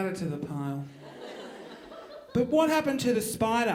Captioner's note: audience laughing